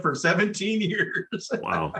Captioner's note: laugh